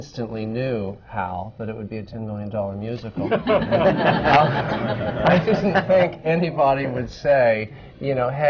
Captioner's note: laughter